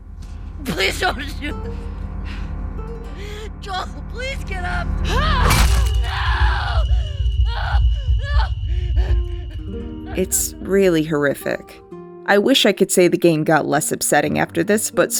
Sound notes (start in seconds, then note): 7.3 Ellie sobbing